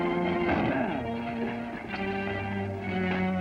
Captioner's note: grunt